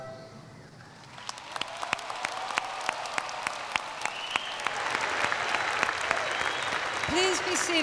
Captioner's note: cheers and Applause